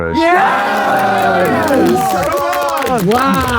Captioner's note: group cheers